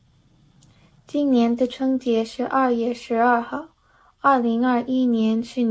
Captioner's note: speaking in Chinese